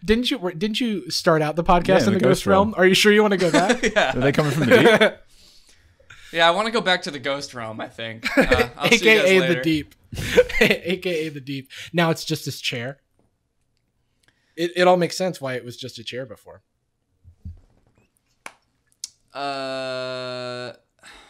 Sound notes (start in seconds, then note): 3.4 laughing; 10.1 laughs